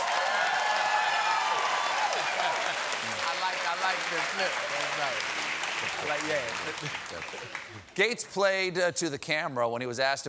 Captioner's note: cheers and applause